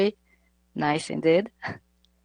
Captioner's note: laughs